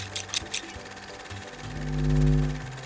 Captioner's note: scissors snip; upbeat music